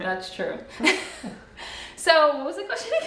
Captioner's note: laughs